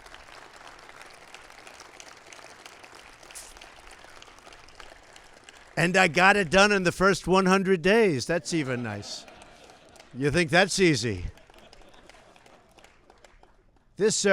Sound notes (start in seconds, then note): 0.0 applause; 8.3 laughter